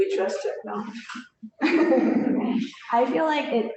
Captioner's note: laughter